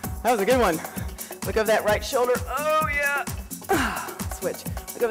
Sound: grunts

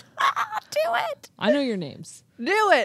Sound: chuckles

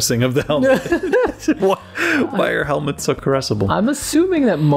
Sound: laughter

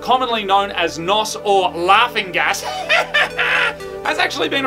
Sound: mimics laugh

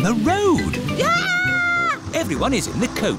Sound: shrieks

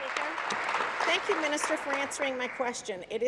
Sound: applause

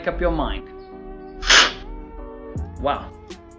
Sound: slurping sound

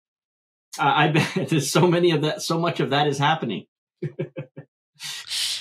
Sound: laughs

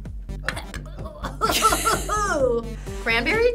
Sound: gagging

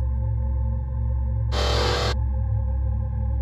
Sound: robot sound effect

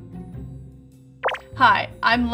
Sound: mellow music; electronic bloop

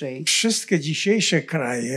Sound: foreign language

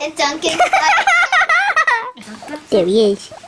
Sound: laughing

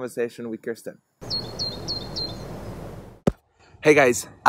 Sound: birds chirping

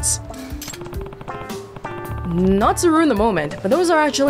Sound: none

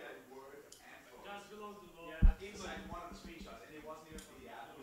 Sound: voiceover; speaks quietly

